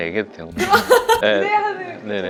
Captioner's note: startled laugh